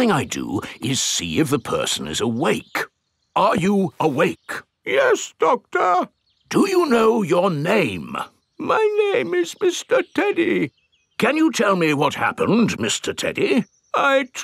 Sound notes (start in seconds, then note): 5.2 in teddy's voice; 7.0 in normal voice; 9.0 in teddy's voice; 11.5 in normal voice